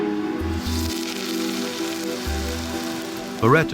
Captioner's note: hissing